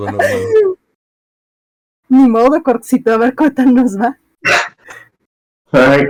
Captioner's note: laughs